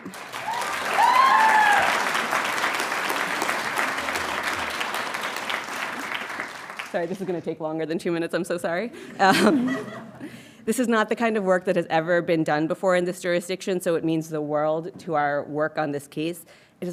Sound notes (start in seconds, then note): 0.0 audience cheering and applauding; 9.2 audience chuckling